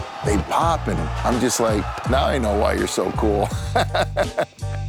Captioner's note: laughs